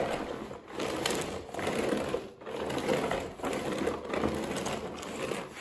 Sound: gentle floor cleaning sounds

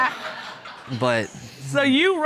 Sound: judge laughing

